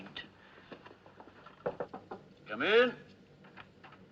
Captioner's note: Batendo